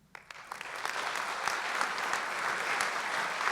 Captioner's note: applause